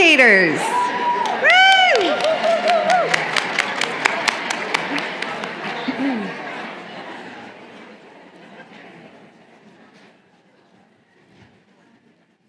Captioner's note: applause